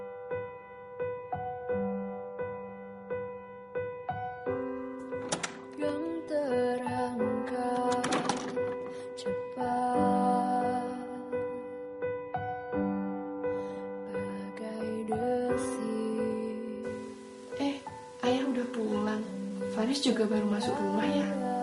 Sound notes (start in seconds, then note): 5.0 door opens; 7.7 door closes